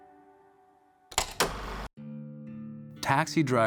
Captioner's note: film reel clacking